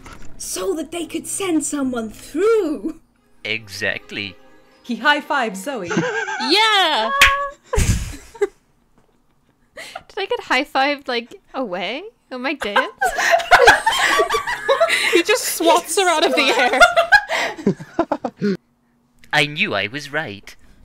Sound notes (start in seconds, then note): 7.1 slapping sound; 12.6 laughter